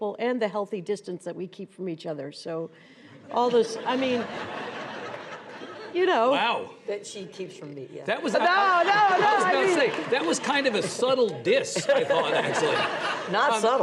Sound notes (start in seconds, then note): 3.4 audience laughs